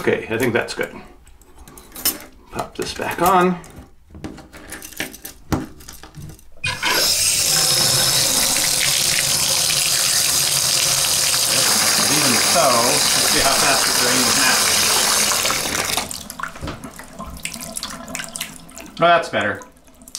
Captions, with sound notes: Look it. I think that's good. Pop this back on. (water runs) (water runs) Even so... Let's see how fast it drains now. (water drains) (water drains) That's better.